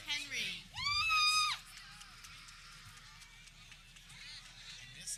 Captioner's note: people cheering